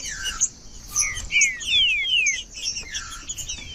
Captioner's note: trinca ferro cantando